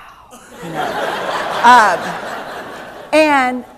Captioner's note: laughter